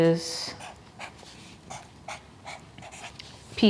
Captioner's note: marker scratches